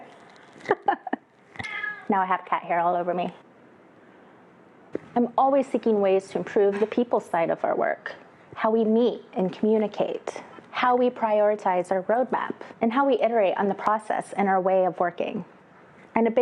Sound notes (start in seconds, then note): 0.6 laughs; 1.0 cat growls